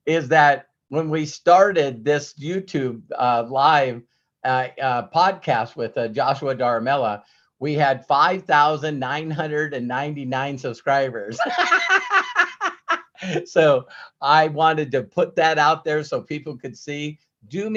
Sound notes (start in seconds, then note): 11.3 laughs